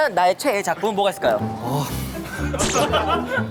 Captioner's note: sigh